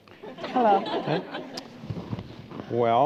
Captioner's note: laughter